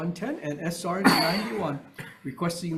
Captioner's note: coughing